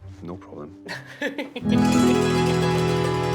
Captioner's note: laughing